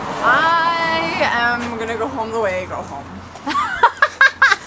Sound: laughs

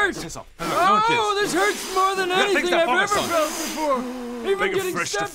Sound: blowing

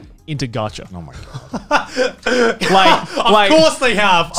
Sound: laughing

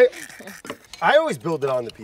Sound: everyone laughing

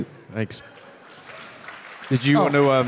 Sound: audience clapping

